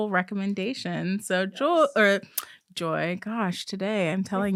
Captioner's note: clicks tongue